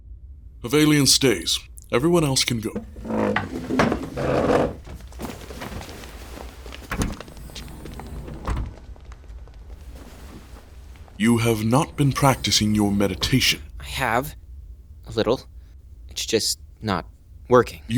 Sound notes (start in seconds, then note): 2.7 shuffling feet, door closing